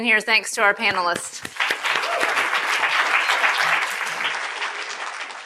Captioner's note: attendees applauding